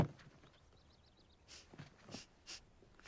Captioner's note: sniffs